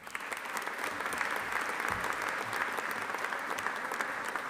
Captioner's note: audience applauding